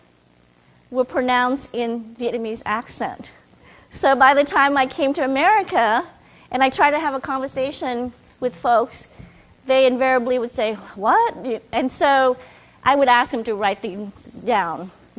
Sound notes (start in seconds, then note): none